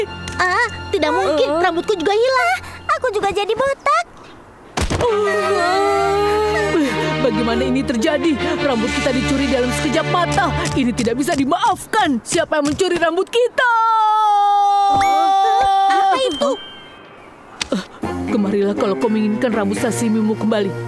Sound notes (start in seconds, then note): 5.0 crying; 13.9 angry screaming